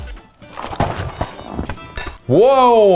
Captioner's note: cereal box rustling